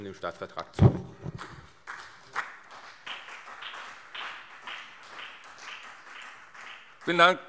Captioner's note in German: Beifall CDU und BÜNDNIS 90/DIE GRÜNEN